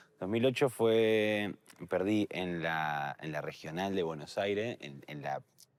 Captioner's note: none